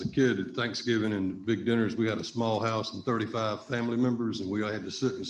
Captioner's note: laughing